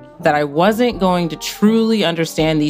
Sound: none

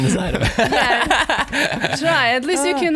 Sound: laughing

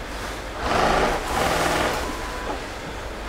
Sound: rattling

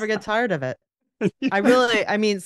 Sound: laughs

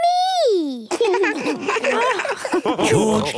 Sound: laughs

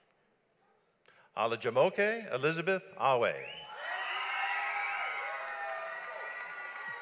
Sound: audience applauds

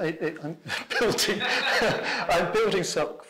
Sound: laughs

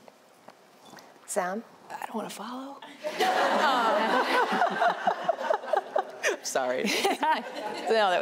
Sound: chuckles

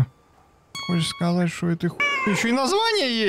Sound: meow

